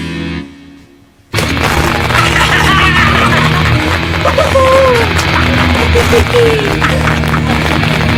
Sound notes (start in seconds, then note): 1.3 electricity crackling; 2.0 scientist laughing